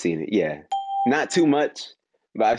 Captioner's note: ding